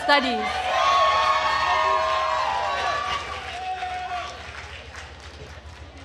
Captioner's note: attendees cheering and applauding